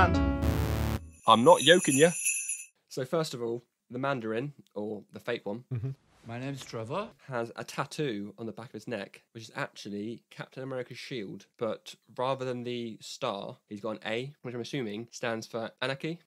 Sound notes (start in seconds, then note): 1.1 sleigh Bells